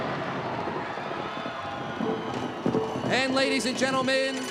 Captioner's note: thunder rumbles